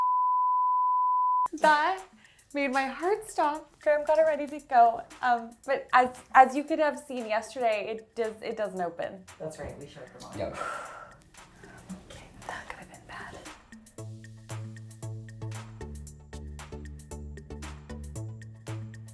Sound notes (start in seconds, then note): 0.1 electronic beeping; 10.4 exhaling; 13.7 upbeat music